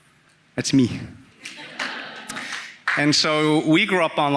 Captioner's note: audience laughing